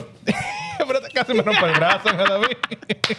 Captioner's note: speaking Foreign Language